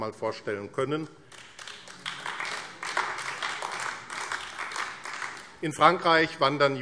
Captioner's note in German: Beifall AfD